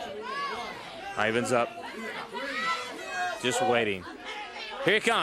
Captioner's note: crowd chatter